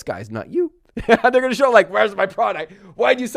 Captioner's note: laughs